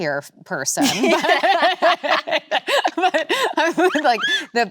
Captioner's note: both laughing